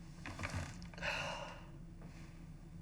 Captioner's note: deep sigh